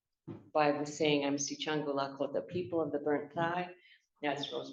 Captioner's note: non-english speech